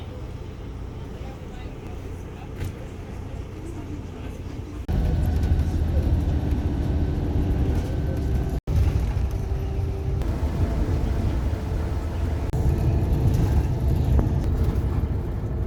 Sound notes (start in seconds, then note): 8.7 bus noises